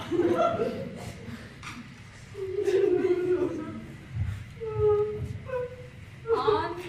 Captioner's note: Hans continues to sob